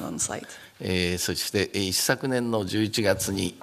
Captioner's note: speaking japanese